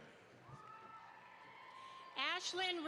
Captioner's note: audience applauds